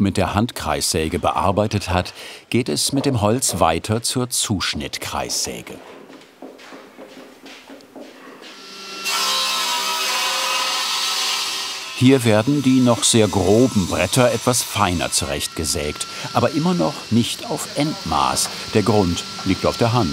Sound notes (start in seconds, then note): 9.7 machine noise